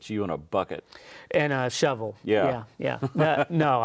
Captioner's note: laughs